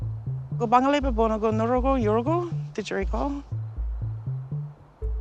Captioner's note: woman speaks indigenous language